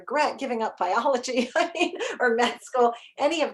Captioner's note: chuckles